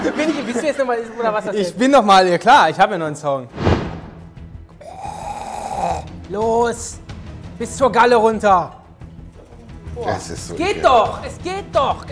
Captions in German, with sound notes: Bist du noch mal? - Ich bin noch mal, klar, ich hab ja noch 'nen Song. (Spannungsvolle Musik) (Würgegeräusche) Los! Bis zur Galle runter. Das ist so eklig. - Es geht doch, genau!